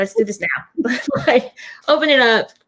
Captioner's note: laughs